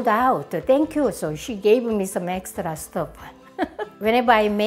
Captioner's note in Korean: 웃음소리